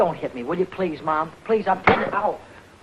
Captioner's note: towel snapping